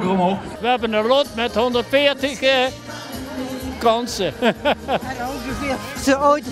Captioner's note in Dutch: lacht